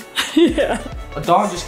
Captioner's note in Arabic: أمي تضحك